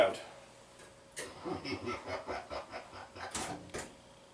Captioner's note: maniacal laughter